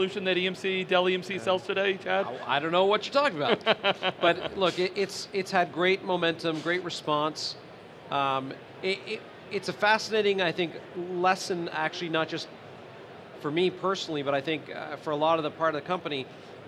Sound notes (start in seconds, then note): 3.3 laughter